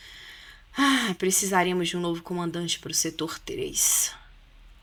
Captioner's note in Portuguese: suspirando